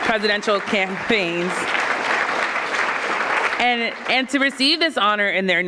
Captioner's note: audience clapping